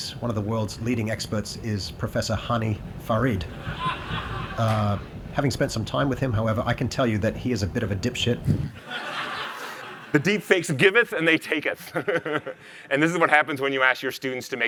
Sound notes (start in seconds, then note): 3.4 attendees laughing; 8.7 attendees laughing; 12.2 laughing